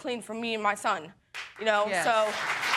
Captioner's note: audience applauding